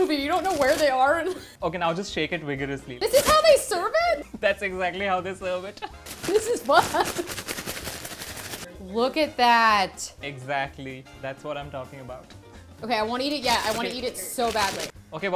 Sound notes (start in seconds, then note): 6.2 laughs